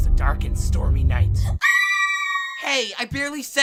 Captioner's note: screaming